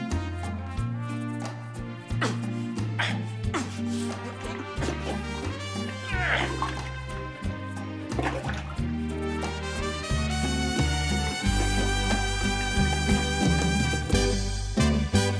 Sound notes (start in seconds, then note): 1.9 grunting